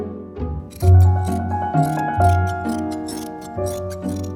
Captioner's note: metallic snipping